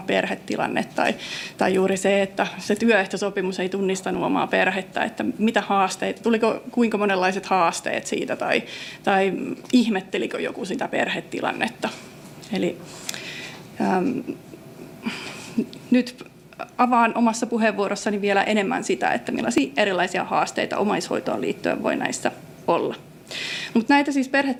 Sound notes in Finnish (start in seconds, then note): 13.7 naurua